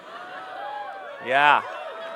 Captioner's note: cheering